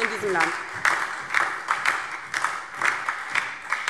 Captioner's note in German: Beifall DIE LINKE und SPD